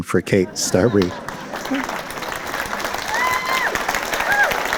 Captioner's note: applause